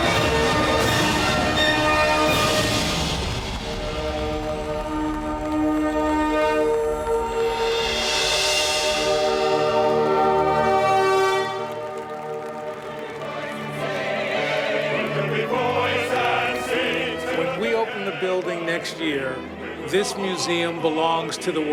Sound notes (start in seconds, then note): 5.4 applause